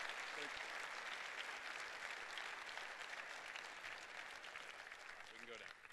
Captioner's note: cheers and applause continue